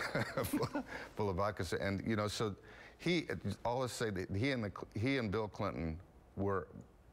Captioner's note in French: laughter